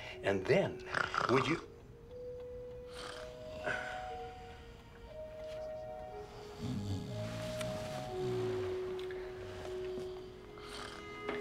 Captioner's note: snoring